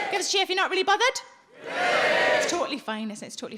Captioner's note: audience cheering